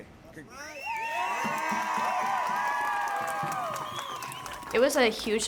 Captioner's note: screaming